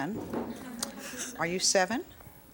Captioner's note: audience laughs